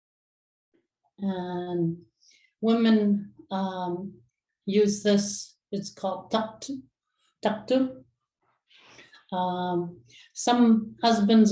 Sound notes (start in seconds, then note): 4.8 inuktitut